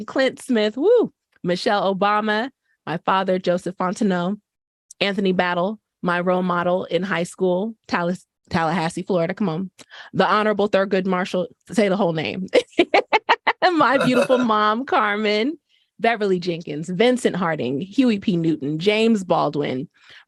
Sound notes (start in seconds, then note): 12.5 laughter